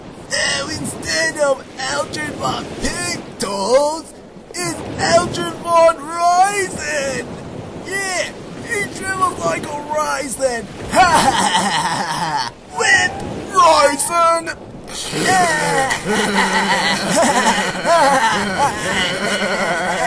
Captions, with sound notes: NOW INSTEAD OF ALDRID VON PECTOS, IT'S ALDRID VON RAISIN. YEAH! HE SHRIVELED UP LIKE A RAISIN. [ Laughing Mockingly ] WIMP! - RAISIN! [ All Laughing Rudely ]